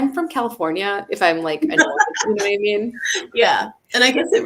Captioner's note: laughs